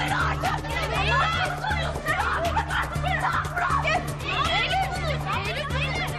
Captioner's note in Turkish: Bağırışlar